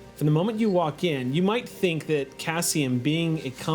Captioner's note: none